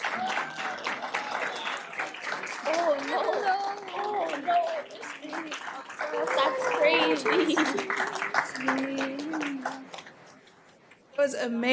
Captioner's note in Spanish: animos y aplausos